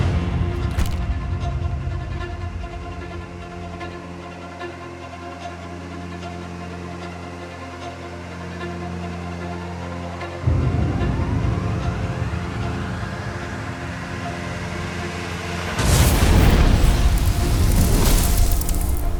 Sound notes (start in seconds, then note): 16.0 zapping